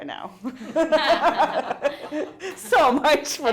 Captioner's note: all laughing